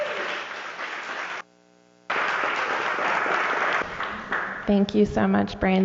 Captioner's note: applause